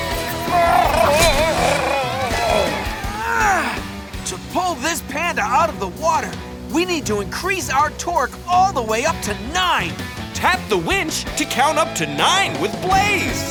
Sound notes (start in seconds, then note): 0.4 whimpering; 2.6 grunting